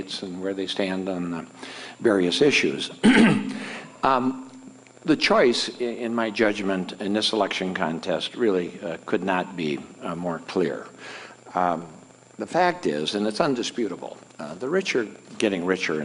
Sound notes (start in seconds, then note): 3.0 clears throat